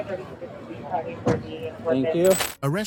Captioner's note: radio chatter